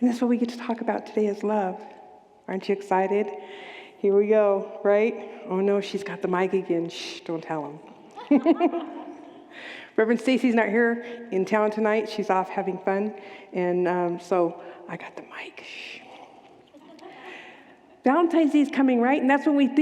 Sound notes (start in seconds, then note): 8.1 laughs